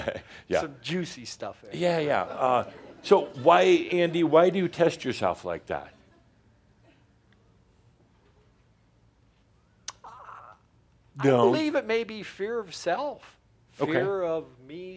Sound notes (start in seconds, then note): 0.0 chuckle; 5.8 some chuckles